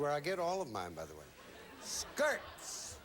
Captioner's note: audience laughing